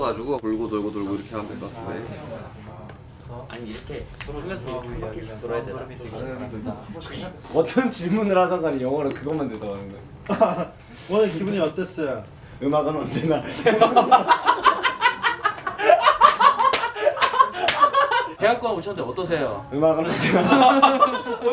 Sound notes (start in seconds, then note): 15.6 members laugh at random answer